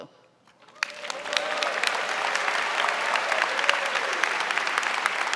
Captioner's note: audience applauding